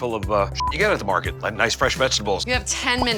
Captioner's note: beep